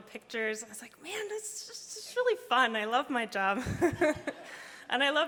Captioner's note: laughs